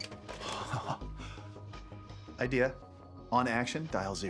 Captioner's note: laughs